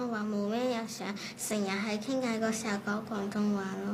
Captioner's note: Cantonese